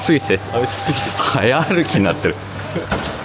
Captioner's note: laughs